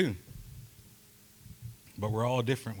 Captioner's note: none